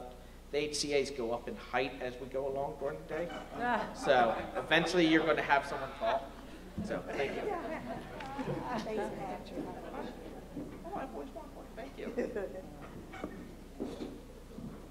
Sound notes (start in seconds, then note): 3.7 laughter